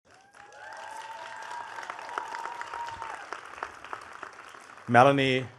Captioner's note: attendees cheering and clapping